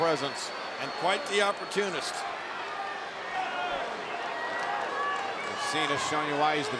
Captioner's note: crowd cheering